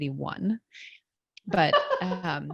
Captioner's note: laughs